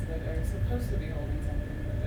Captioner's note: none